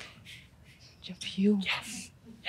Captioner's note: whispers